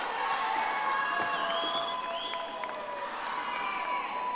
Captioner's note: audience applauding